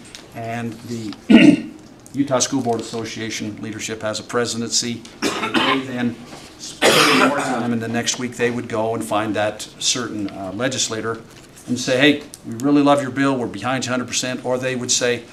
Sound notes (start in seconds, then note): 5.2 cough; 6.8 clears throat